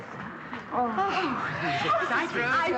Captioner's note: all exclaiming